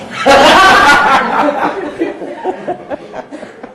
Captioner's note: group laughing